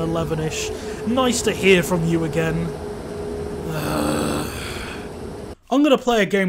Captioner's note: sigh